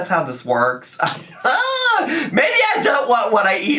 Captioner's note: laughs